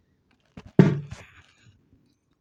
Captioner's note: pop sound